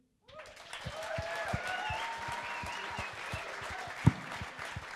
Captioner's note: cheering and applauding